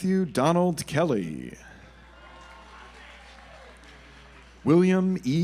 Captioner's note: audience applauds